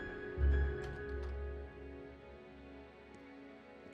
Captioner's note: door clicking